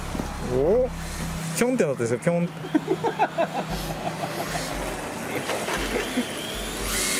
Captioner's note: laughs